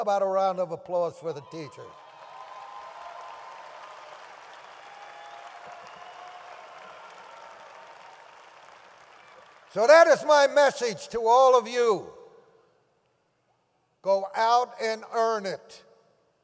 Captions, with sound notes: So how about a round of applause for the teachers? (audience applauds and cheers) So that is my message to all of you. Go out and earn it.